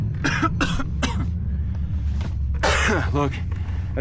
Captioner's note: coughs